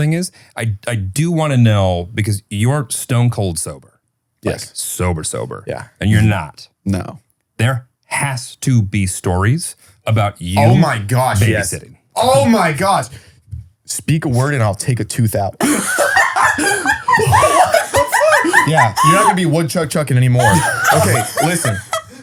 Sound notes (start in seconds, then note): 15.6 laughing